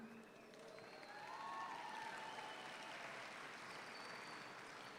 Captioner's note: audience applauds